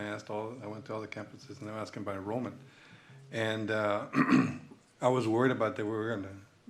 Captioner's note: clears throat